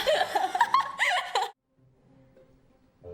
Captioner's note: laughs